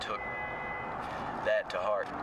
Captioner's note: car horn